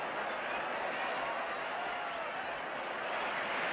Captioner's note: cheers and applause